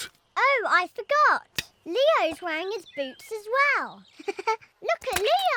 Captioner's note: giggles